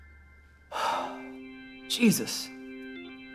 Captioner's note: organ music; sighs